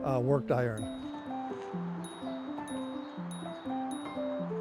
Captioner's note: bell dings